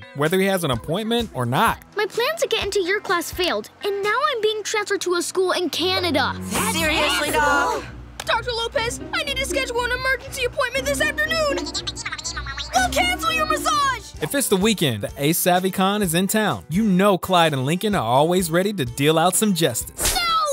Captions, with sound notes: whether he has an appointment or not. My plans of getting into your class failed. And now I'm being transferred to a school in Canada. Seriously, dog? Dr. Lopez, I need to schedule an emergency appointment this afternoon. [chattering] Well, cancel your massage! If it's the weekend, a savvy con is in town. You know, Clyde and Lincoln are always ready to deal out some justice.